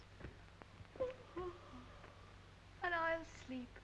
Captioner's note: yawns